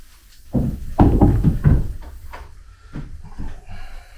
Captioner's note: stone slab thuds